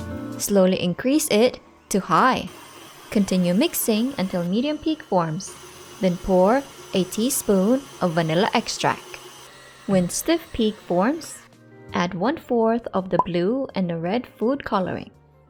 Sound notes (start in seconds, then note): 8.5 mixer running